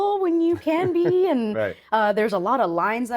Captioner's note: chuckling